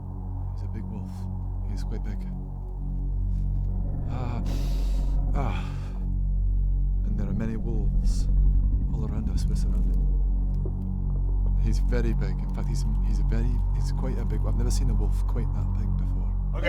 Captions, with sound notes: He's a big wolf, he's quite big Ah, *sniff*, ah and there are many wolves all around us, we're surrounded He's very big, in fact, he's very, he's quite a big, I've never seen a wolf quite that big before